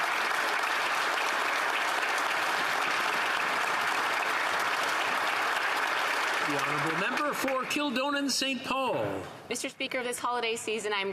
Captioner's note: applause